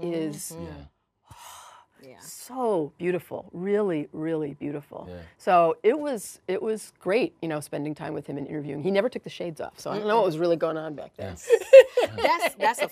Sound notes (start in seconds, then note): 2.0 sighs; 11.5 laughs